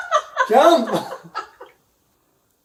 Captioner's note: laughs